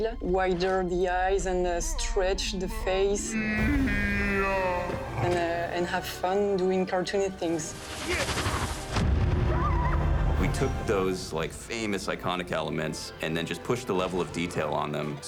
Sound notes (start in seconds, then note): 3.3 slo-mo voice; 8.2 thud; 9.0 Bullet Bill squeaks